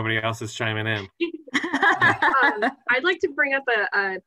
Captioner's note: laughter